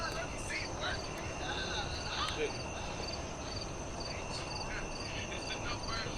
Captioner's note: crickets chirp